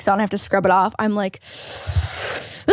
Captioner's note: sucks in breath and mock screams